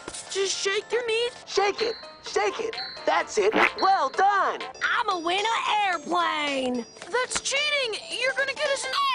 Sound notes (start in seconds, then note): 3.5 squirt